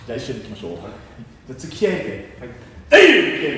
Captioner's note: kiai